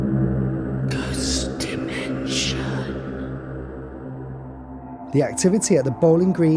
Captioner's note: whispers ghost dimension